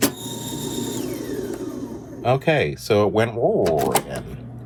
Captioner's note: tape recorder whirring